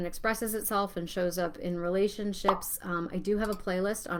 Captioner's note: icon pops